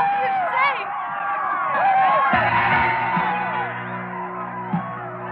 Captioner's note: yelling; ominous music